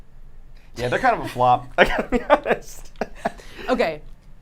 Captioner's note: laughs